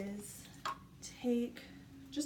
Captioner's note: lid pops